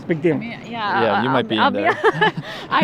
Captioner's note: laughter